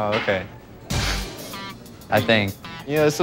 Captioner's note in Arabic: ضحك